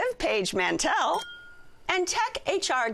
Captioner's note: glasses clink